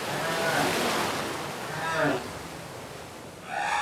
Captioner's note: whales calling